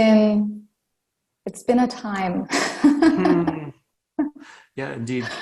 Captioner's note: laughs